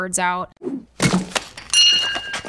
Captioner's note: brick thuds; bell dings